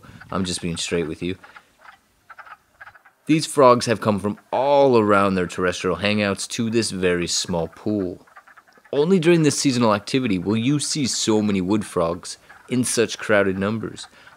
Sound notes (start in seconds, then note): 2.1 light quacking